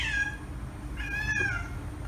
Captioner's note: cat meow